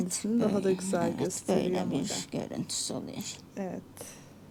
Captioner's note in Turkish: homurdanır